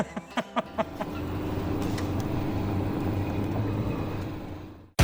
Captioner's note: laughing; engine revving